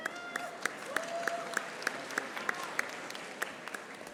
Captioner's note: audience applauding